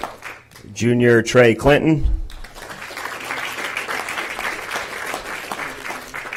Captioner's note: applause